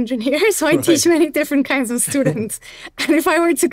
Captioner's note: chuckles